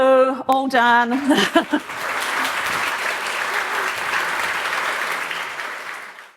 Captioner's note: applause